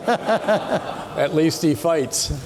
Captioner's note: people laughing